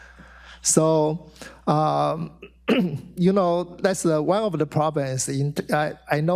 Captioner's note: clears throat